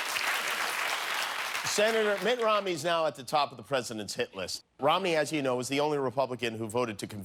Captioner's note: applause